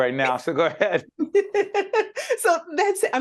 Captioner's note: laughing